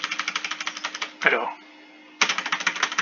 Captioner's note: clicks everywhere